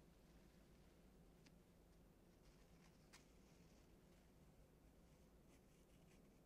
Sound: steel tongs gently scraping against paper

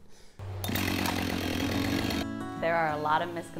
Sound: power saw roaring

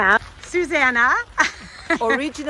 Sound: laughing

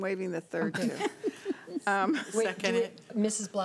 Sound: laughing

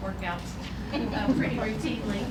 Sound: laughter

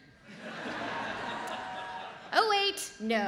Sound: audience laughs

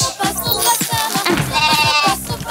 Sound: bleating

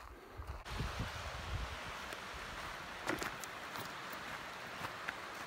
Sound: rushing water roars

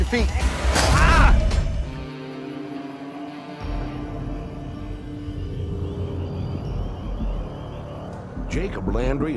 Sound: shouts

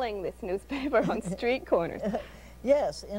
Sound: laughs

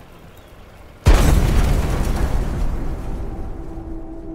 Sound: blast sound

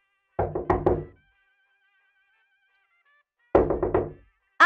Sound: knocking on door

